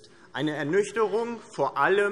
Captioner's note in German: none